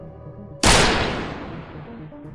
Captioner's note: gunshot